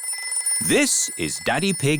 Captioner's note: phone rings